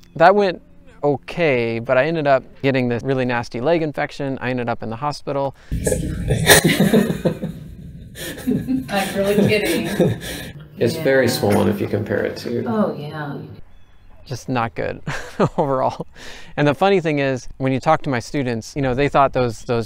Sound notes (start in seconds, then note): 7.3 laughing